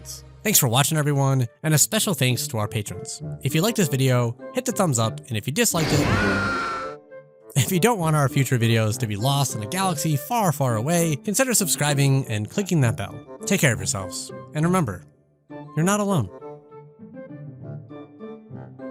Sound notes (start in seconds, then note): 5.8 lightsabers buzzing; 5.9 Luke screams in pain